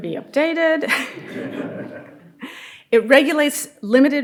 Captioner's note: audience laughing